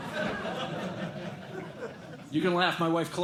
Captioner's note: laughter